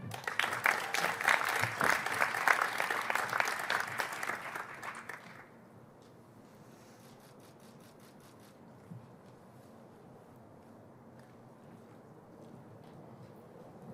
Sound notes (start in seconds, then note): 1.7 applause